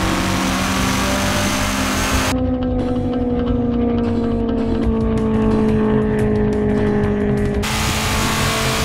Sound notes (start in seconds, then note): 2.6 car engine roars